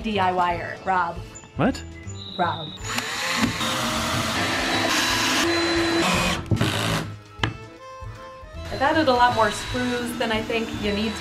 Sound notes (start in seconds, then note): 2.8 drilling noises